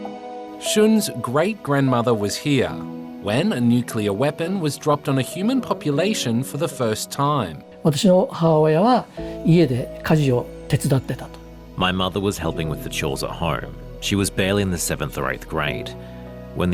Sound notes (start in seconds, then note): 8.0 speaks japanese